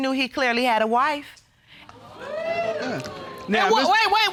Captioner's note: audience gasps